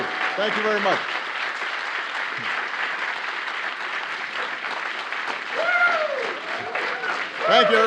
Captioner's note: applause